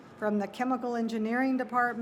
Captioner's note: none